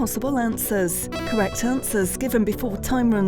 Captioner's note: alarm beeps